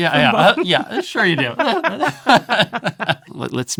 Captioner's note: both laughing